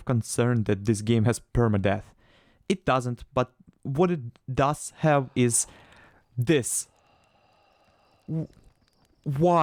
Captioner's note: sighn